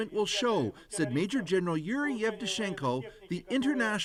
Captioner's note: speaking russian